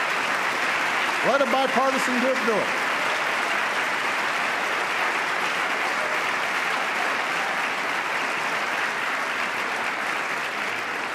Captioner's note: applause